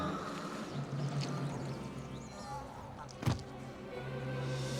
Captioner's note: none